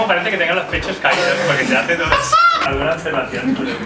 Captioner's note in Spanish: risas